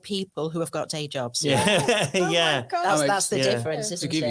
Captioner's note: laughing